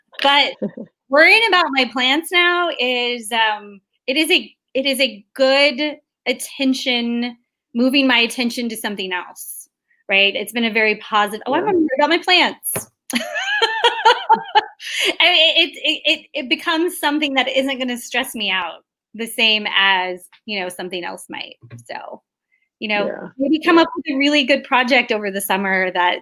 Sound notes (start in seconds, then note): 13.8 laughs